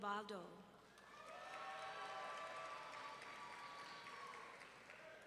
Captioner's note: audience cheering